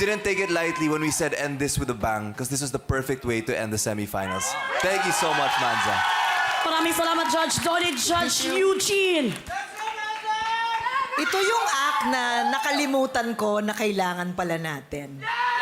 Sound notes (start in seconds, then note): 6.1 audience cheering